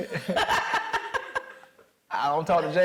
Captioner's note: laughing